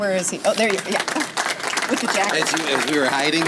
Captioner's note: audience applause